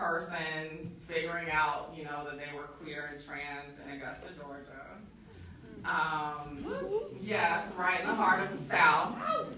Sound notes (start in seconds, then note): 7.2 audience whooping